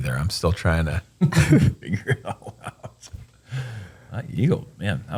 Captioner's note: laughs